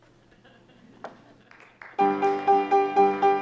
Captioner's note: audience laughing and clapping; piano music